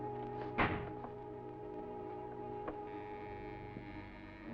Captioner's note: door clicks